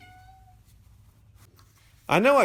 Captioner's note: meow